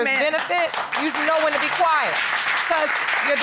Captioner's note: audience applauds